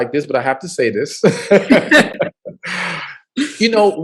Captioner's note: laughs